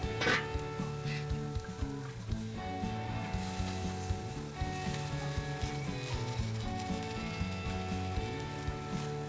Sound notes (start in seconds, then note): 0.7 upbeat music; 5.7 fire crackling